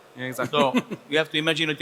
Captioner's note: speaks foreign language